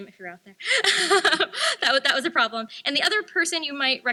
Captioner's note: laughs